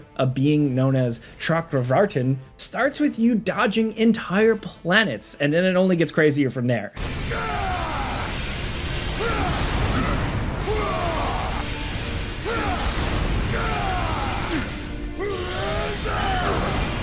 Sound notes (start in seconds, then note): 7.3 grunting